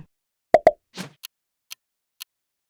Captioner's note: graphic popping; graphic whooshing; clock ticking